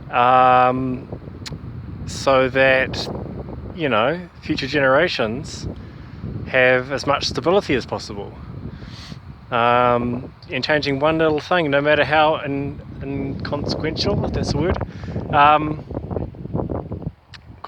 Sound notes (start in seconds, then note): 8.8 sniff